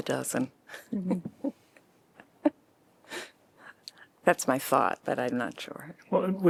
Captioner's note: laughter